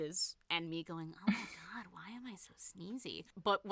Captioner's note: snickers